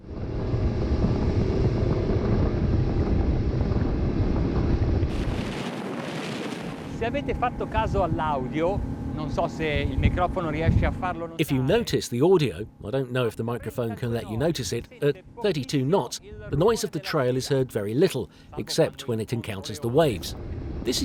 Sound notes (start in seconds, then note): 7.1 speaking foreign language